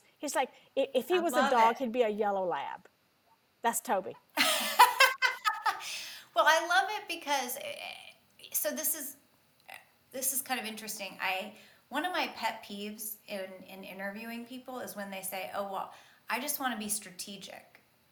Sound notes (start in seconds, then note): 4.4 laughs